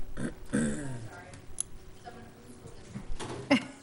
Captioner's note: clears throat